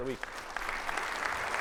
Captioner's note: audience applauds